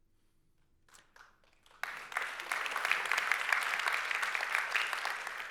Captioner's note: audience applauds